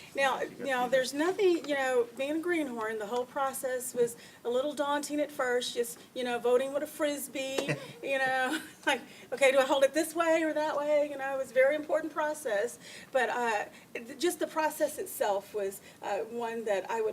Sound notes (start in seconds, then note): 7.6 laughs; 7.6 laughter